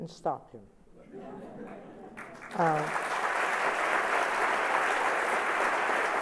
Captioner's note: laughter and applause